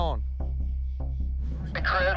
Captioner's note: over walkie